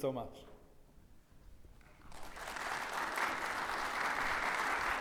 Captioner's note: audience applauding